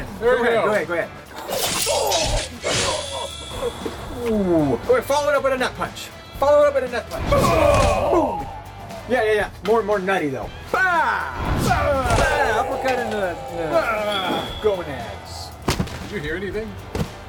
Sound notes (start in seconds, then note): 1.8 Mad Santa Pained Noises